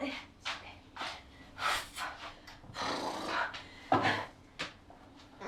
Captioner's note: breathing slows